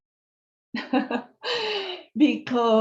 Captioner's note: laughter